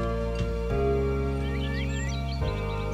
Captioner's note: birds tweeting